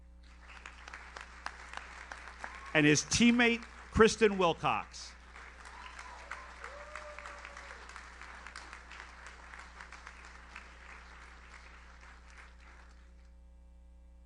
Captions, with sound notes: (audience applauds) And his teammate Kristen Wilcox. (audience cheers) (audience applauds)